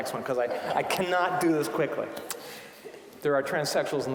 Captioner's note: audience laughing